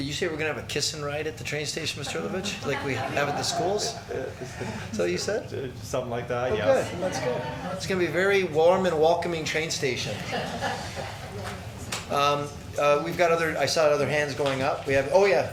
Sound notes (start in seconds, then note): 6.6 people laughing